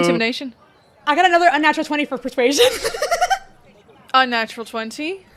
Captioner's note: laughs